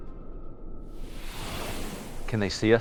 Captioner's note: transition whirring